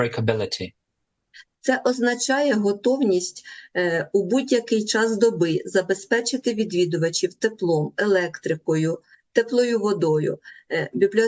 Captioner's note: foreign language